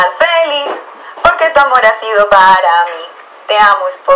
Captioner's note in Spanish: Sonido Viejo Transistor